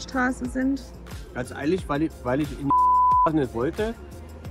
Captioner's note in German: piep